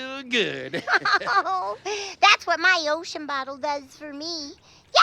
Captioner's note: laughs